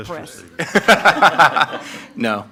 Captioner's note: everyone laughs